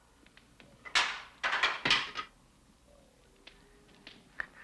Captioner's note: bamboo clatters